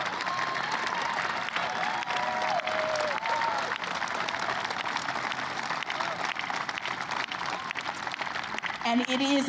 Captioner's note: applause